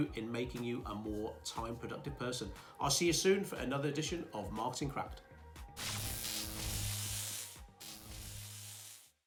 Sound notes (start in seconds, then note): 5.8 electric Buzz